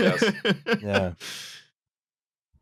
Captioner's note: laughs